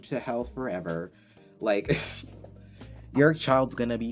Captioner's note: laughs at my own stupid joke